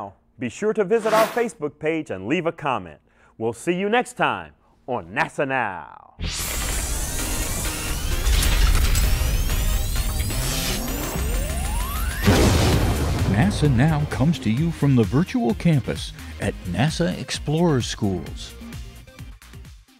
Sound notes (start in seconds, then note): 7.3 sound Effects